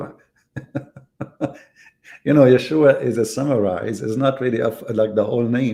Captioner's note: Ketawa